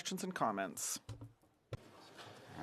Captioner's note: speaking French